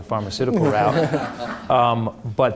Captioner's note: audience laughing